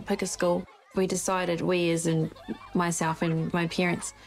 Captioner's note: laughs